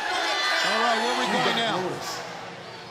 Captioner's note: crowd chatter